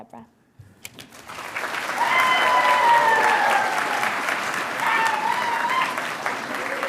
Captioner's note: audience cheering and applauding